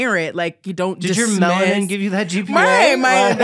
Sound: jokingly

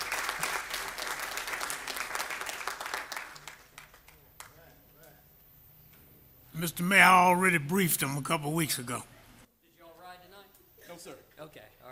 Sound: applause

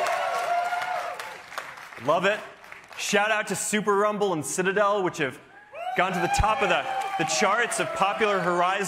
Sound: cheers and applause

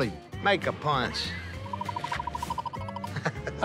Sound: radar gun beeping

